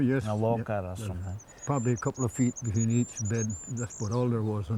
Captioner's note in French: gazouillis d'oiseaux